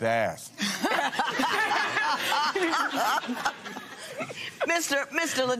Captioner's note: laughter